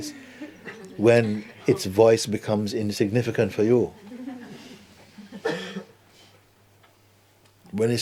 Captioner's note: laughter